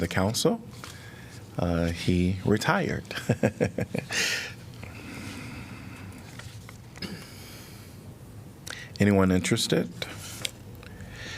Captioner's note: laughter